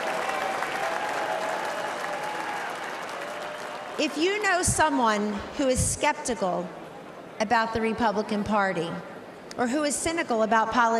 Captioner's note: cheering and applause